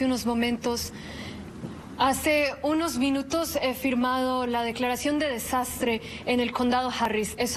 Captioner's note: speaking Spanish